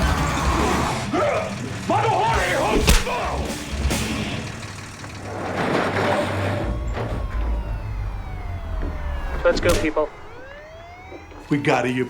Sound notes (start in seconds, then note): 2.0 grunting; 4.1 siren wailing